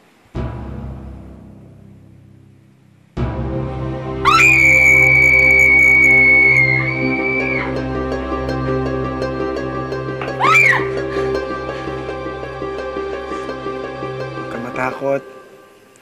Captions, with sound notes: [suspenseful music continues] [screams] Don't be afraid.